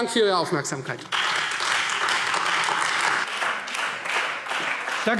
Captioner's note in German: Anhaltender lebhafter Beifall Freie Demokraten